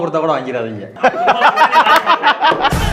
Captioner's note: men laugh